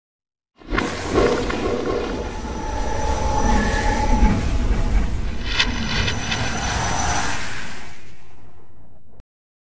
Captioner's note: chorus of dimensional rifts briefly crackle